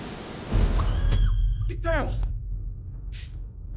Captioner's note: screams